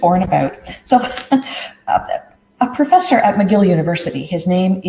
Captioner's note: chuckles